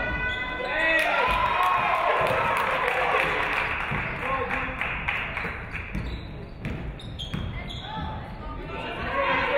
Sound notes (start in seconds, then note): 0.8 audience cheering; 1.0 audience clapping